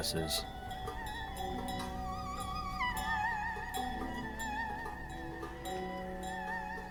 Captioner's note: bells ringing; upbeat music